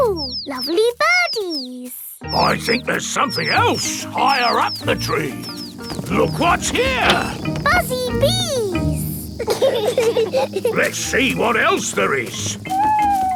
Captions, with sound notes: Ooh, lovely birdies! I think there's something else higher up the tree. Look what's here! Buzzy bees! (BEES BUZZING) Let's see what else there is.